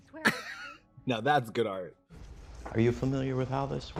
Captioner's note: coughs